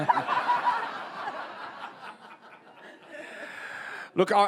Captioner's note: audience laughs